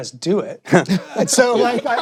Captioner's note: laughter